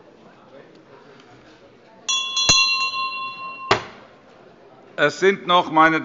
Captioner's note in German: Anhaltende Unruhe – Glockenzeichen des Präsidenten